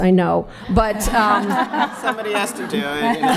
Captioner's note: laughter